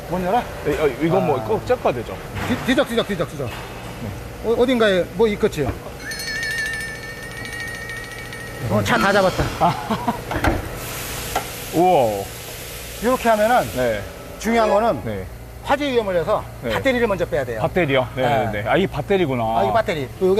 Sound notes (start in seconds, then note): 6.0 fumbling